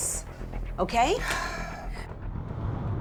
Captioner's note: sighs